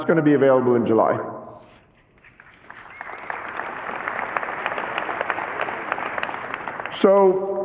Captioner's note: applause